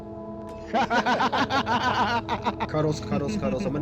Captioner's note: laughter